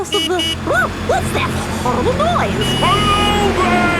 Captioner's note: honking